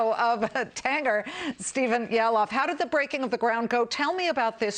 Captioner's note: laughter